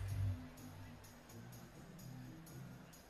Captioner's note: none